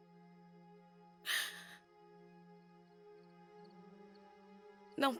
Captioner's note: alice sobs